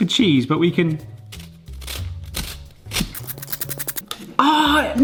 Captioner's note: gadget grating